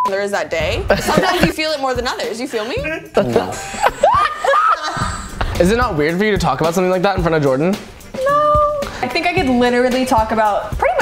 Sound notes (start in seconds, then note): 3.2 laugh